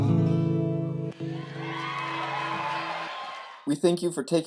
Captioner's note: cheering